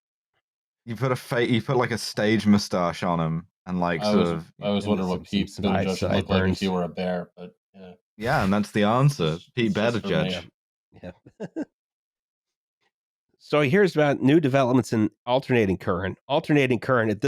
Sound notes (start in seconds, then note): 11.8 laughs